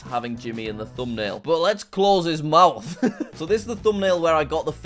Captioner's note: laughs